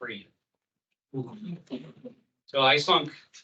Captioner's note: attendees exclaim